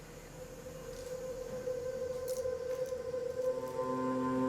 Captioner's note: eerie, mysterious sounds